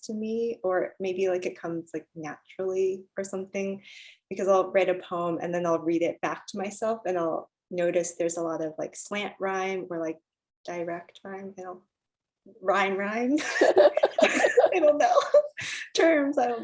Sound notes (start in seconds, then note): 13.4 laughter